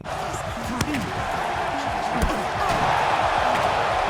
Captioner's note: crowd cheers